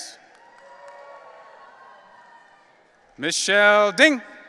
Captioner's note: audience cheering